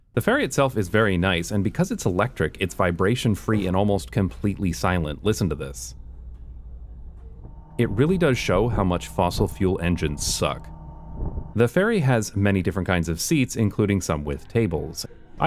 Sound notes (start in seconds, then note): 6.3 very subtle humming noise